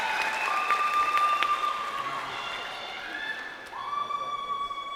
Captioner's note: crowd cheering